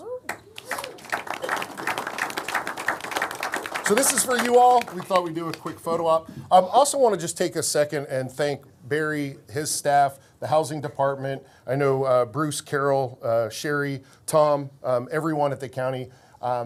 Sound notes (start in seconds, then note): 4.9 applause